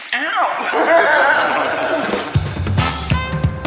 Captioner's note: group laughter